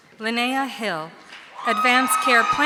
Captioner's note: audience cheering